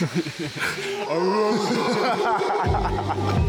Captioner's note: howler monkeys bellowing; upbeat instrumental music